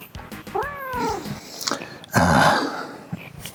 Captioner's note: meow; sigh